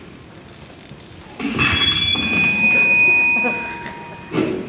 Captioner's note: SFX: Microphone feedback